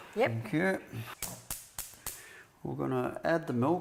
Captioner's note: gas stove igniting